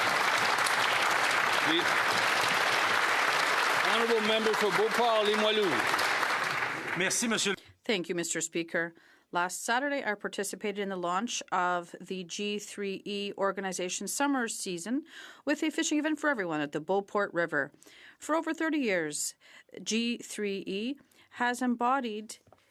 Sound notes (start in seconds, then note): 0.0 applause; 11.0 speaking French